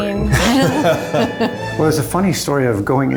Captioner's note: laughs